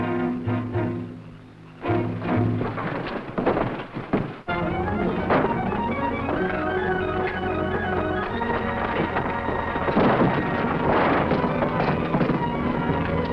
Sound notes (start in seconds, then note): 2.3 Hurst rustling; 2.3 tense music; 8.0 men rustling; 8.0 tense music